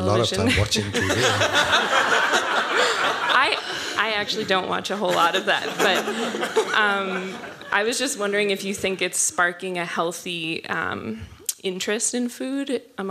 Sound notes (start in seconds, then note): 0.4 laughing